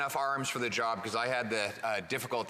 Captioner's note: speaking French